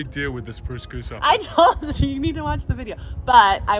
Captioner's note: laughing